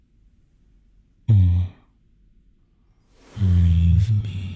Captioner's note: he leans down and whispers in your ear